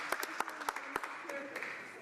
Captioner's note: applause